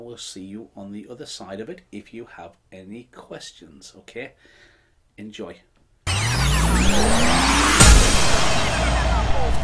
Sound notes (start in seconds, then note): 6.1 tape rewinding